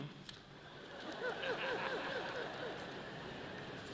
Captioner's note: all laughs